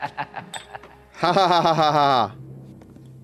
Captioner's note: laughs sarcastically